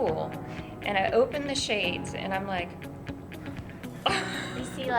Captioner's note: gasp